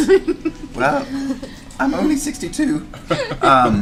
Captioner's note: voice breaks